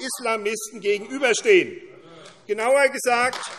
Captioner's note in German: Beifall AfD